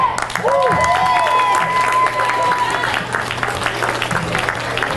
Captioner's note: all cheers and applauds